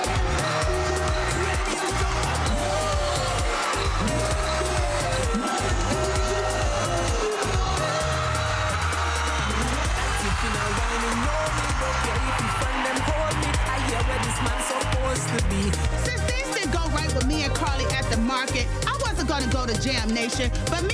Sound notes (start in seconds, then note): 4.1 crowd cheering; 10.5 upbeat music continues